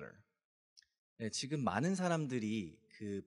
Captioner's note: speaking korean